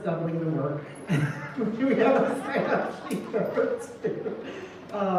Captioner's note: laughter